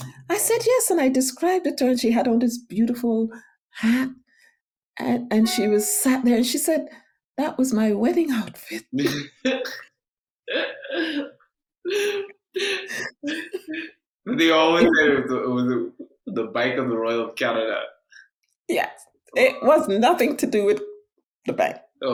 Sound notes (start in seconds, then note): 10.7 laughing; 14.6 speaking faintly